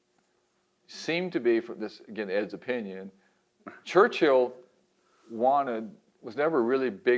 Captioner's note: laughs